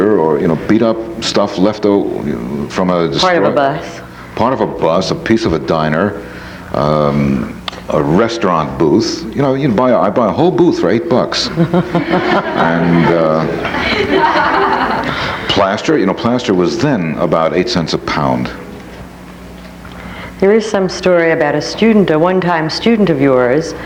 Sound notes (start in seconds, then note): 11.4 audience laughs; 11.4 laughs